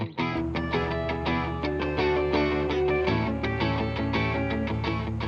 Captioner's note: engine whirring